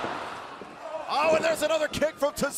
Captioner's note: none